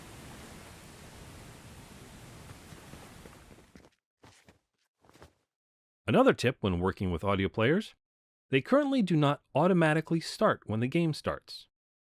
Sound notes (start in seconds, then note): 0.0 the sound of rushing water fades in and plays; 2.9 the sound of rushing water fades out